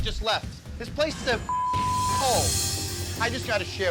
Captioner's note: beep